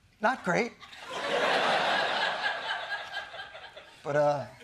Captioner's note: laughter